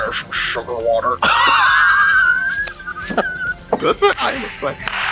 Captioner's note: Katya laughs